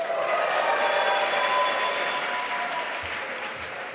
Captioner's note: applause